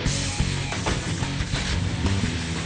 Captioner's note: car door clicks closed; car engine whirs